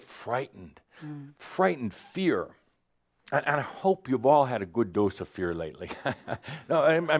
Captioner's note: chuckles